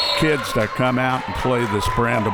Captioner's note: whistle